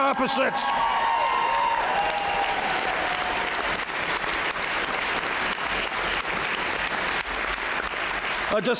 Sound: applause

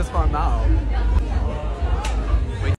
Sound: indistinct chattering

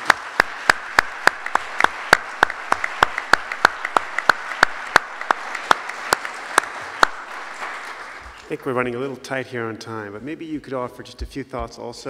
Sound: applause

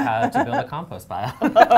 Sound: laughs

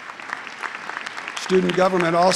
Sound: applause

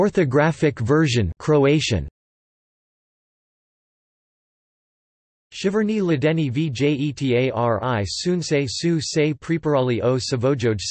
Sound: Croatian

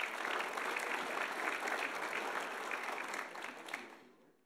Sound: audience applauding

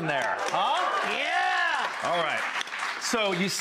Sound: applause

